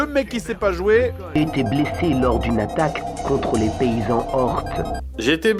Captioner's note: monotone voice